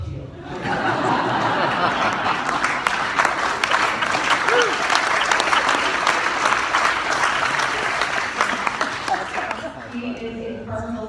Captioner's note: laughter & applause